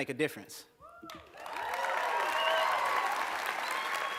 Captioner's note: applause